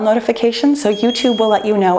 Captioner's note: bell chimes